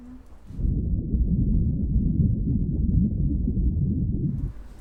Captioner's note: heart beating